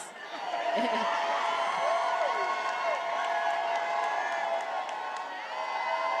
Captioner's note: attendees applauding and cheering